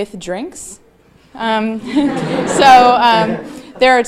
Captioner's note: audience laughing